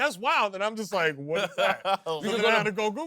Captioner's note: laughs